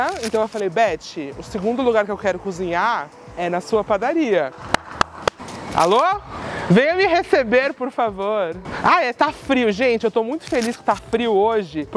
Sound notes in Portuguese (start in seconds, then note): 4.6 palmas